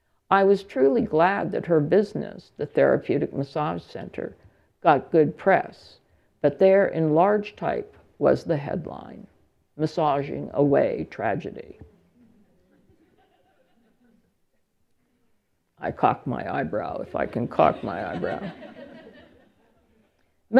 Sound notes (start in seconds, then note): 12.2 tentative laughter; 17.1 laughter